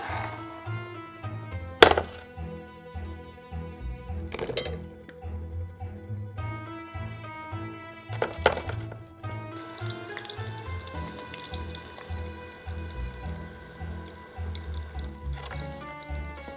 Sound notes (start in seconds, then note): 9.0 simmering